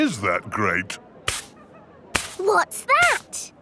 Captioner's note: brushing